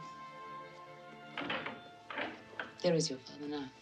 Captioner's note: door opens